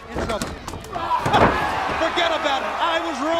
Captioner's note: crowd cheering